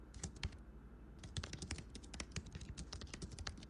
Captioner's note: typing